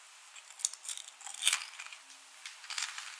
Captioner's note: breaking sound